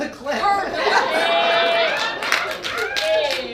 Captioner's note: audience laughs